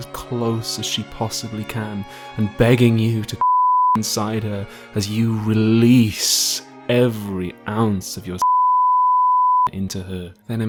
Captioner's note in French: bip